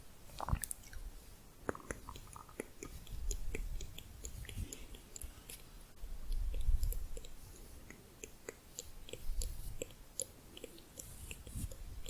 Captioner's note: tongue clicking and bubbling